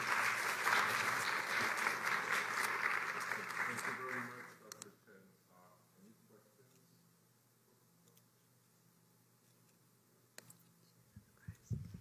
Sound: applause

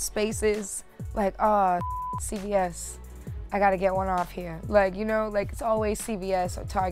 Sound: beep

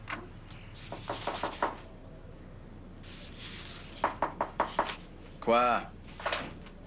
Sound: On frappe à la porte

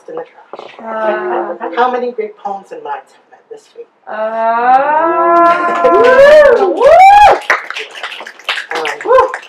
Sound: audience ahhs, applause, woos and snaps

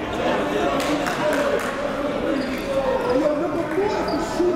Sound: crowd talking

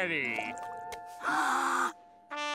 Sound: gasping

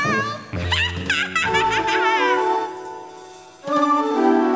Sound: laughing

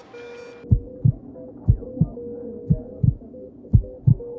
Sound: heart beating slowly

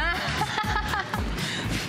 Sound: laughter

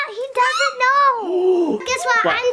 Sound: person gasps

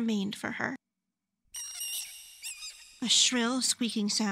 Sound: squeaking

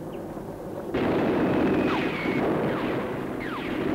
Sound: booming

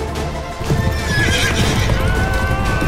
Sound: horses neighing and galloping

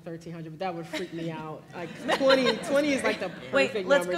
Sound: laugh

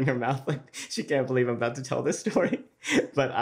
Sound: laughs

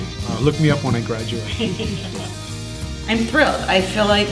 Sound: laughs

